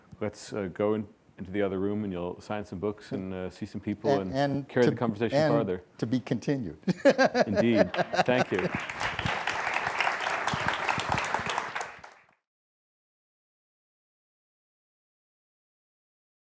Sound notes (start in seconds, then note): 6.8 laughs; 10.9 applause